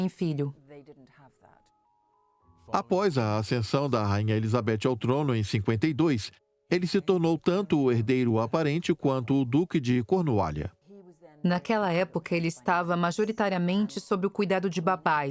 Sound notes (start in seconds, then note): 2.6 voiceover